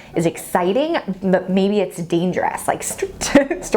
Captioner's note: giggles